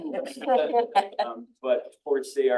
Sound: attendees laughing

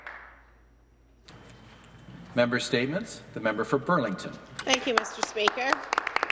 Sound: some Applause

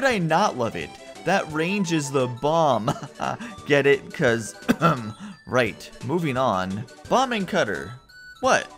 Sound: cough

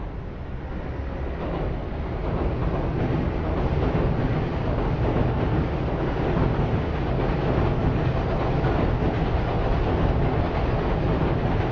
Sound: train Noises

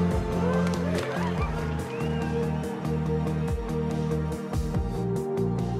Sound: attendees cheering and applauding; upbeat music

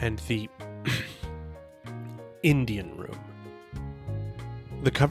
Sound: ahem

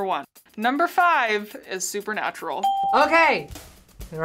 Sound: ding

